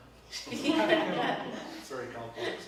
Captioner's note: both laugh